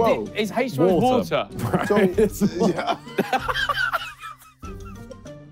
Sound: laughing

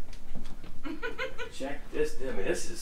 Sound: laughs

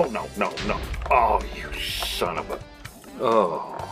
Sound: boom

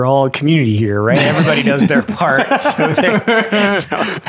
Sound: Father Innocent laughs

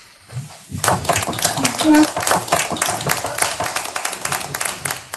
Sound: audience applauds

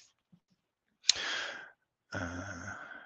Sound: speaking faintly

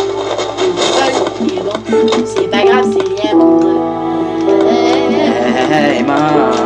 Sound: humming

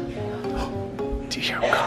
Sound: gasps; coughing

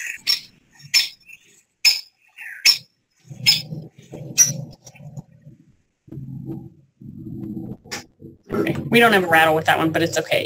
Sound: sound effect

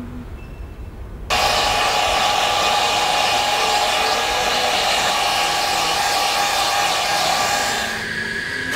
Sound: hair dryer sounds; singing

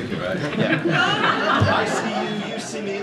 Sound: laughter

